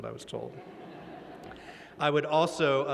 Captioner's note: laughter